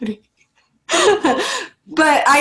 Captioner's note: laughs